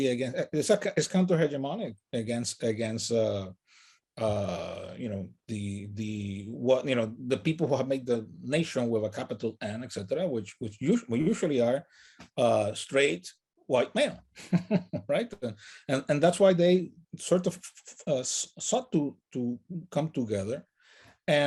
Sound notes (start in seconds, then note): 14.4 laughs